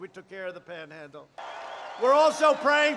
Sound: applause

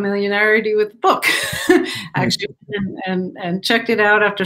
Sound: laughter

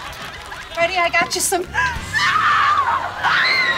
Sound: screaming

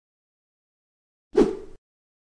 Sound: woosh

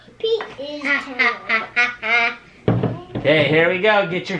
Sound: laughs

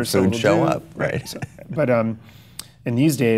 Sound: Chase laughs

